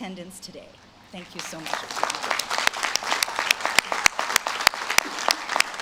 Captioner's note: audience claps